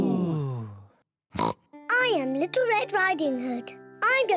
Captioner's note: all gasp; snorts